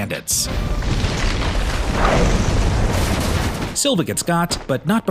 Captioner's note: explosion